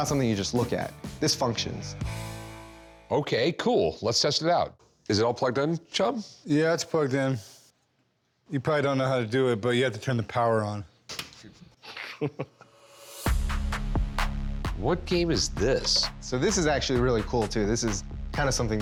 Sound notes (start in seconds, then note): 10.9 button clicks; 11.8 soft laughter